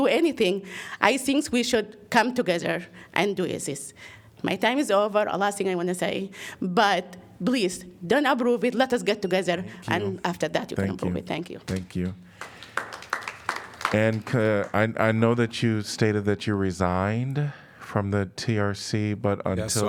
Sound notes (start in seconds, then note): 12.3 applause